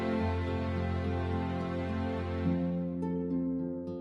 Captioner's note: none